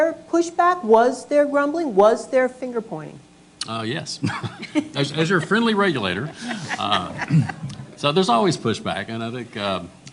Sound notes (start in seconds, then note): 6.2 laughter